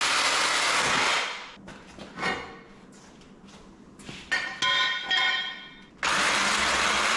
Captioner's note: metal clanking